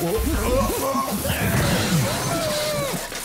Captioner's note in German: Es kracht